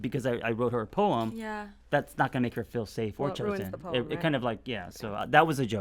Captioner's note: none